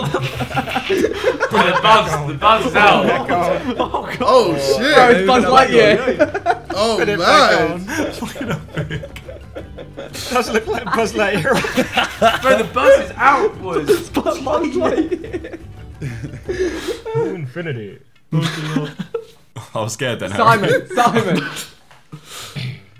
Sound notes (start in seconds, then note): 0.1 everyone laughing; 8.6 laughing